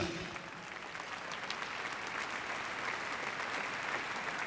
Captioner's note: applause